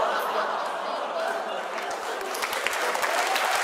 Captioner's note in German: Gelächter